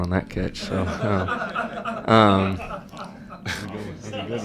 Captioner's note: laughter